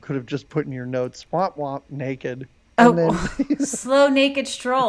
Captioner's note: laughs